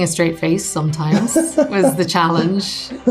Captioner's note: laughs